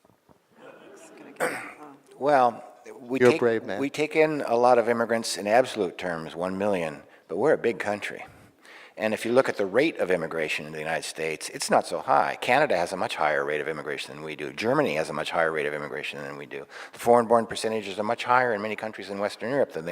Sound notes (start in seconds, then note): 0.5 audience laughing